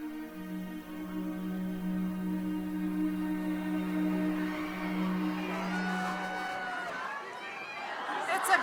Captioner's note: crowd cheering